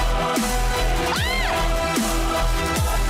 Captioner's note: squeals; thrilling music continues